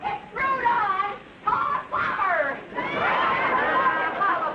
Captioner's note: audience laughing